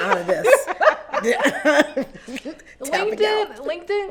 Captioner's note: laughs